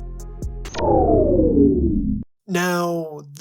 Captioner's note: power down sound